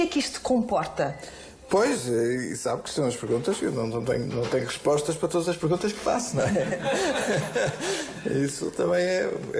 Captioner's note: laughs